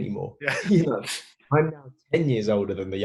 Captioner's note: laughter